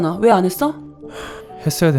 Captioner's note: sigh